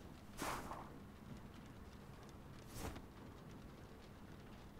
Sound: sweater whooshes

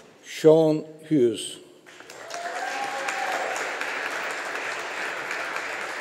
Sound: audience applauding

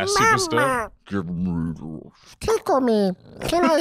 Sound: baby voice

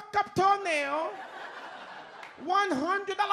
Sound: audience laughs

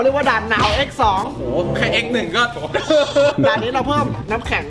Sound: awkwardly chuckles

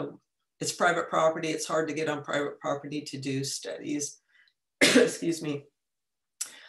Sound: cough

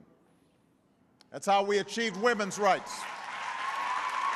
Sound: applause

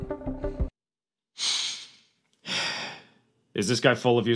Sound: sigh

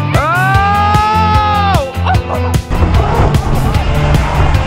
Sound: laughs

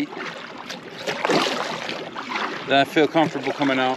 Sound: water splashing

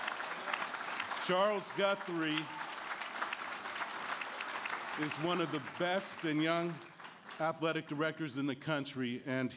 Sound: applause

